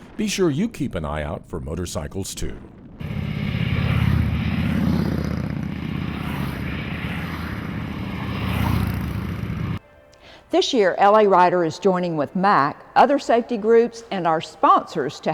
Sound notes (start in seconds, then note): 3.0 motorcycle engine revving